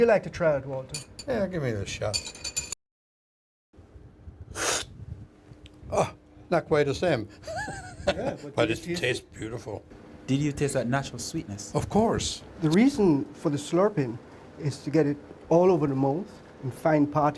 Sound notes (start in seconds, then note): 4.6 slurping sound; 7.4 laughs